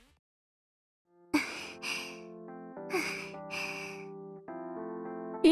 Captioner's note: panting